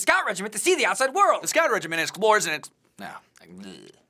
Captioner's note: stammering